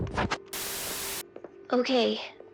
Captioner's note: tv static